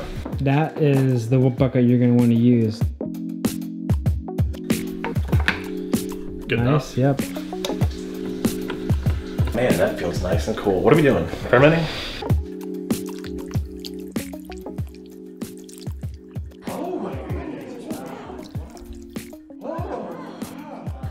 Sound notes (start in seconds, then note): 12.8 slime noises; 18.2 slime noises